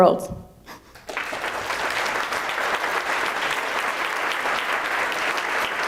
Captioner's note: audience applauding